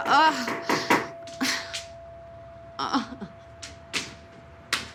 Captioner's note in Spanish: Toques en la puerta